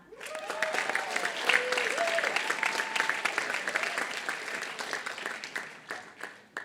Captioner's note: applause